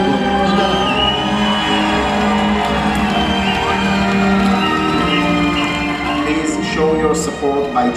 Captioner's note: applause